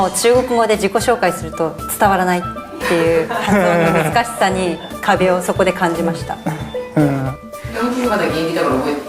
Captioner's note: laughs